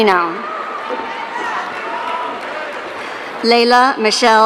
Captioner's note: audience cheering